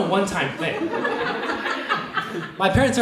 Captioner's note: audience laughs